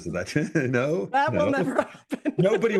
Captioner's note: laugh